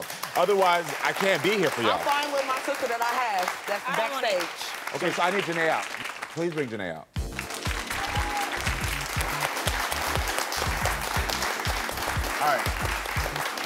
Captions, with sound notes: Otherwise, I can't be here for y'all. - I'm fine with my sister that I have that's backstage. - Okay, so I need Janey out. Please bring Janey out. (upbeat music) (audience applauds) All right.